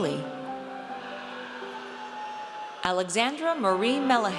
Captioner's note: audience cheers